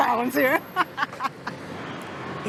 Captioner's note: laughs